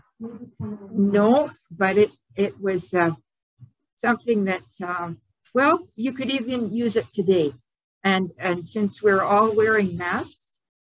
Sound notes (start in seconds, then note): none